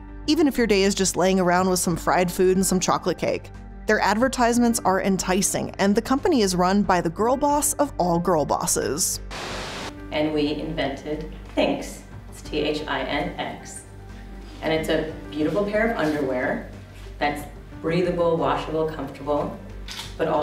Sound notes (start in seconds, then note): 9.2 static crackles